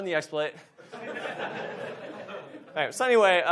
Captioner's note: audience laughs